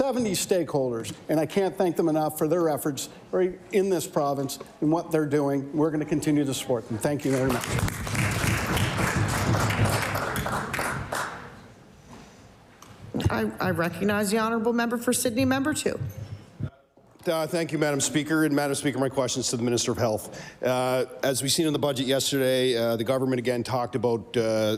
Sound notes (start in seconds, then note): 12.3 applause